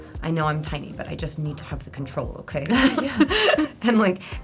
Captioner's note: laughs